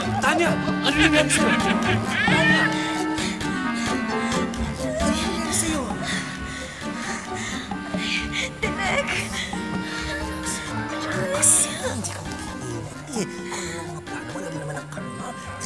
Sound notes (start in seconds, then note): 0.8 cackling; 3.3 Tanya pants